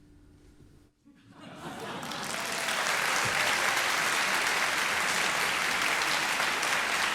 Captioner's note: audience laughing; audience applauding